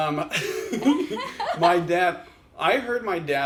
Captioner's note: laugh